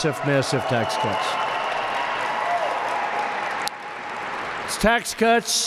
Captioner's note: applause